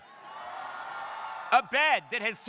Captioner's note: crowd cheering